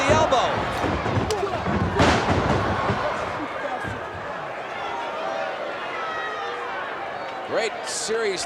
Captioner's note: applause